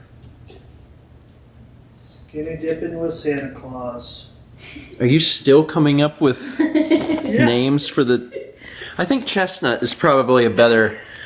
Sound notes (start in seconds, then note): 6.4 chuckles; 6.9 huffs; 8.6 wheezes